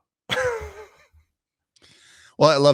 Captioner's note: giggles